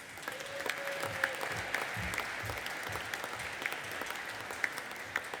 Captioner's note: audience applauding and cheering